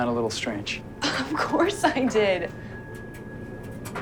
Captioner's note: laughing